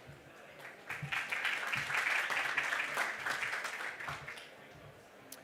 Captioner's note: audience applause